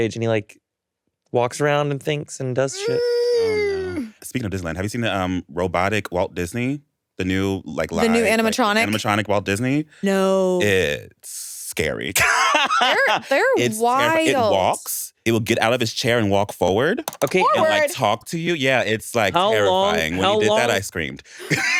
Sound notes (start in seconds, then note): 12.1 laughs